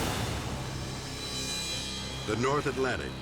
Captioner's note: graphic whooshes; ominous music